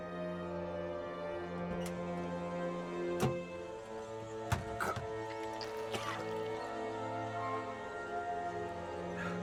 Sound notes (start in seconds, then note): 4.7 gagging and coughing